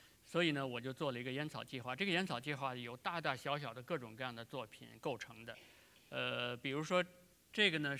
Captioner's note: speaking in Chinese